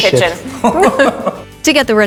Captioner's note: all laughing